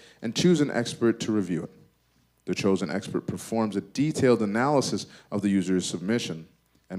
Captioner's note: none